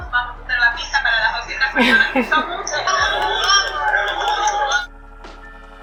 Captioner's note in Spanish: risas y festejos